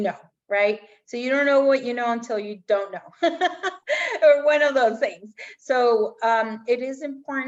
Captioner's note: laughter